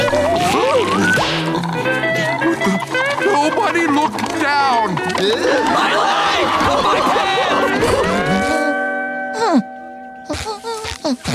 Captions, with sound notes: Nobody look down. [chattering] [humming]